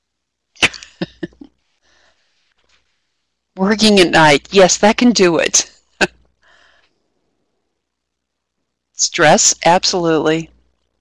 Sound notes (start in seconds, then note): 0.6 laughing; 6.8 laughing